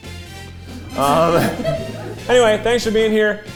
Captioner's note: cast laughing